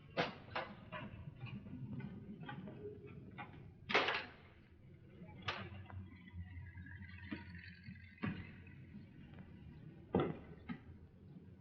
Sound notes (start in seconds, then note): 3.9 clattering sound